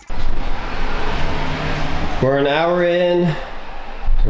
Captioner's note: engine Revving